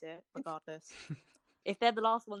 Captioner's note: laughter